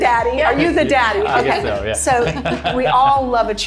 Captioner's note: chuckles